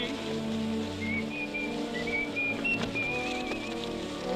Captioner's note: kid whistling